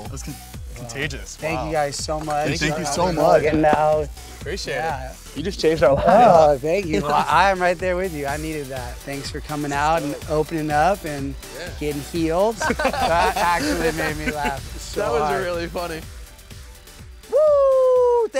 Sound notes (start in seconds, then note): 12.6 laughing